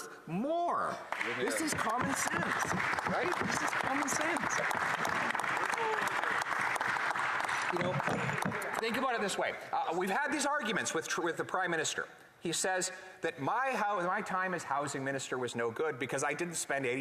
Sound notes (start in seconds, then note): 9.4 some applause